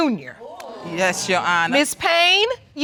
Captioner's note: audience exclaiming